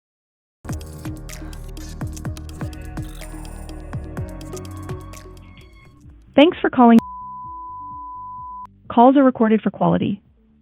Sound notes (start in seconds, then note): 0.6 upbeat music; 6.9 call beeping